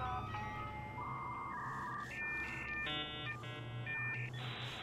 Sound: modem buzzing

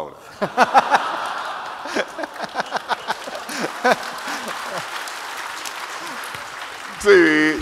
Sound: 笑声与掌声

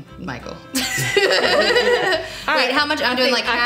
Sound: laughing

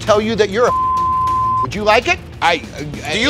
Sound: beep

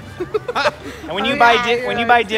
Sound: laughter

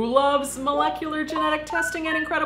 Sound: electronic beeping

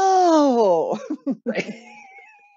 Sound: laughter

